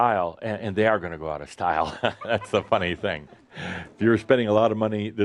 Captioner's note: Adamus chuckles